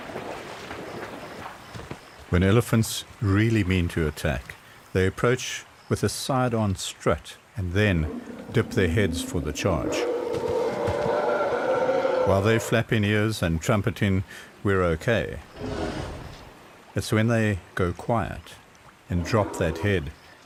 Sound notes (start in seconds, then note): 10.5 trumpeting